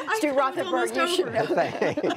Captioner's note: laughter